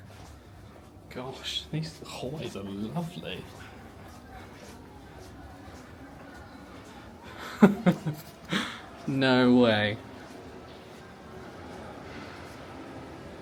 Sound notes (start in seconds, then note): 7.3 chuckling